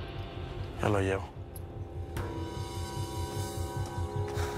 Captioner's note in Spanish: exhala